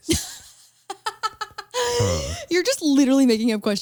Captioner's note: laughs